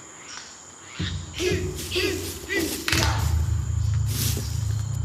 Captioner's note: children grunting rhythmically